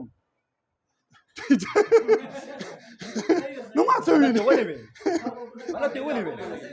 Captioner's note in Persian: خنده